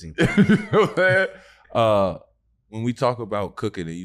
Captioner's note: chuckles